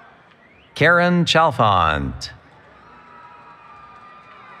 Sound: cheering

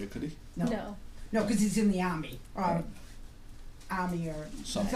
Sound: voiceover

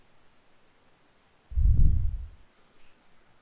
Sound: whoosh

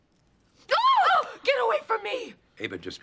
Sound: ANNIE screams in shock

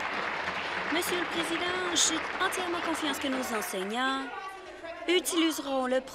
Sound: applause

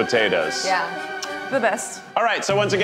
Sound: smooches

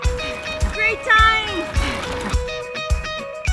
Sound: gears grinding; upbeat music

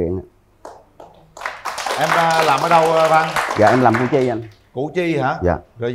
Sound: applause

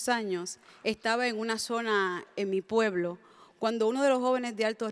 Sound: speaks in Spanish

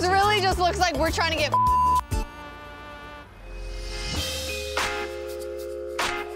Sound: beep

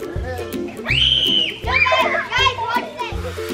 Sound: cheerful music; screaming

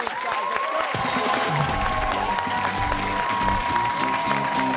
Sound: cheers and applause

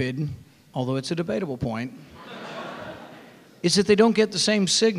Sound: audience laughing

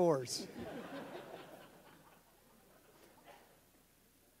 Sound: audience laughs

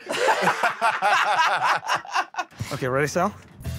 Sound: laughter

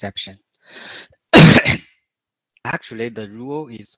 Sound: 剧烈咳嗽

